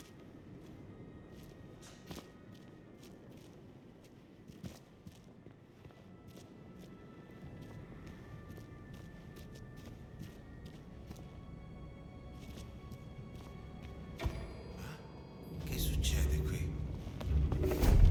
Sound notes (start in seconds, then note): 13.0 ominous music; 16.2 speaking foreign language